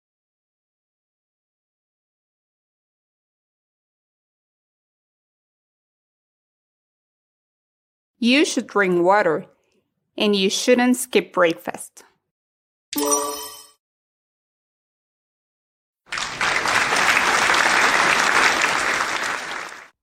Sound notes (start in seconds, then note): 12.9 sonido de timbre correcto; 16.0 Aplausos